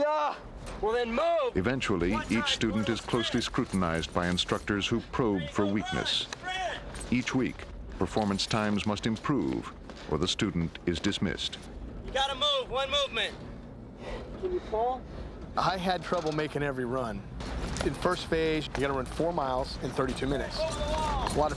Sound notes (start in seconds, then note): 2.0 voiceover